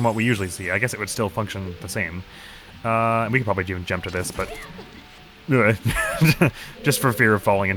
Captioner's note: nervous chuckle